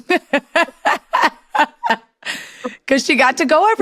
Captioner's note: laughs